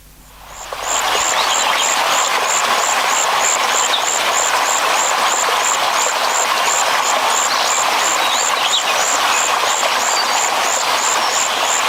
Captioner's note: nature sounds